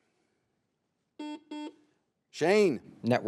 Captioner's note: buzzer beeps